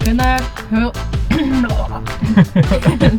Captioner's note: dry throat noise